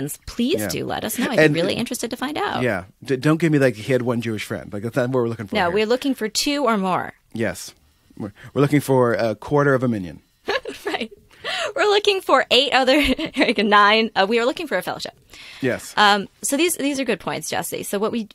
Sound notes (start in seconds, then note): 10.5 laughter